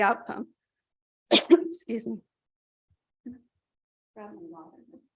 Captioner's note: cough